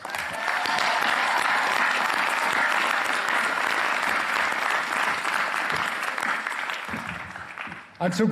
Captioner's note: applause